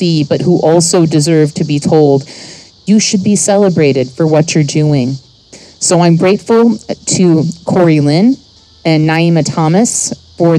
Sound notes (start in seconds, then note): none